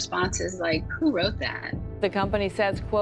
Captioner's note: soundbite of archived recording